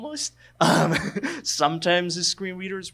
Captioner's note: laughs